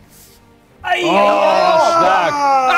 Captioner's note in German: Freudige Laute; Schrei